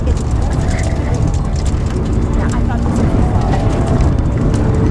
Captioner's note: continues chattering